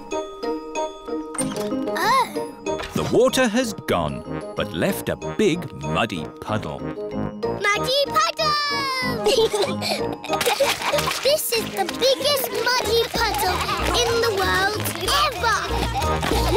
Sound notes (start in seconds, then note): 9.2 both giggling; 15.4 all giggling